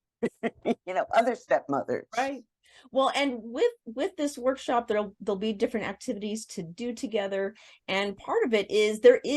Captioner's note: laugh